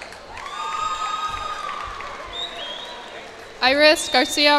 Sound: cheers and applause

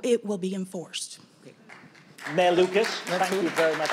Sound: audience applauding

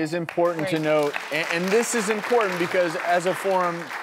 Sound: audience applauding

